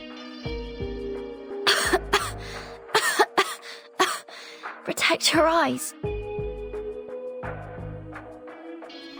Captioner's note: coughs